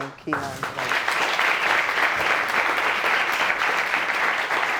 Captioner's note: audience applauding